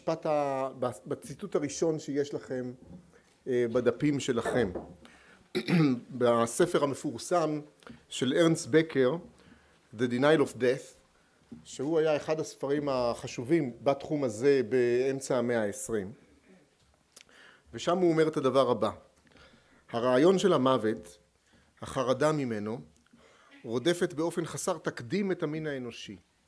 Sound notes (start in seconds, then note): 9.1 אנגלית